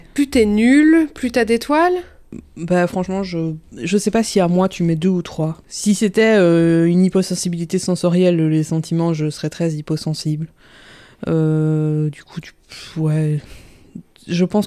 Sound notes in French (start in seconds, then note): none